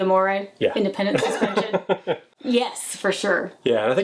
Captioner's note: laughs